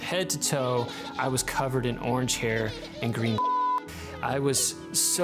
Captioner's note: beep